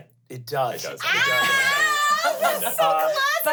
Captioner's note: squeals